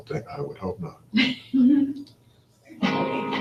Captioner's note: laugh